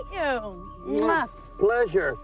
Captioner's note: smooching